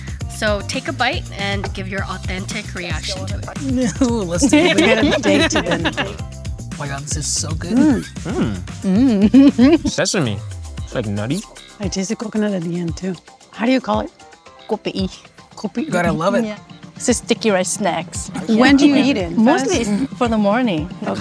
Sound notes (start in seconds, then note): 3.6 group giggling; 8.9 laughing; 14.7 speaking in foreign language